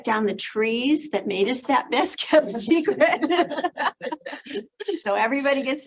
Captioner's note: laughs